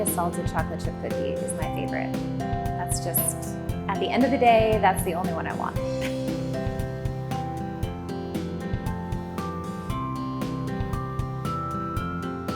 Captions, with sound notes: a salted chocolate chip cookie, it's my favorite. That's just, at the end of the day, that's the only one I want. (laughs)